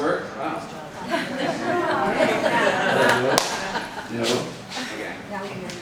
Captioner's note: participants laughing